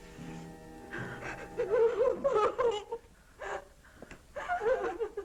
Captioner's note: girls crying